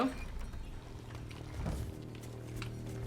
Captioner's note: tinkling